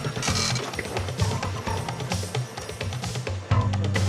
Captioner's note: machine whirring